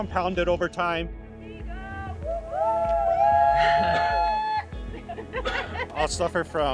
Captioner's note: group cheering